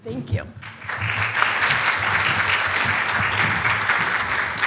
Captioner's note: applause